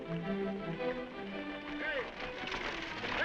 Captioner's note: dramatic music; horse hooves clopping